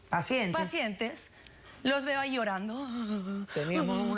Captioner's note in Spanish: llora